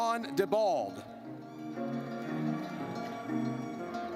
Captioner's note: horn blares